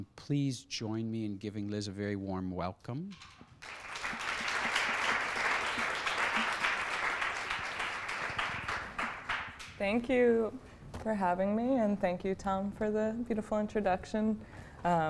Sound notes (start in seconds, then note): 3.6 applause